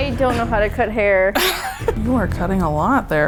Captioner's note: laughs